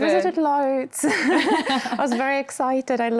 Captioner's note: all laughing